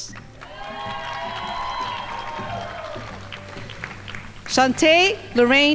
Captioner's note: crowd applauding